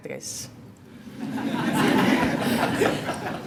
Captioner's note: laughter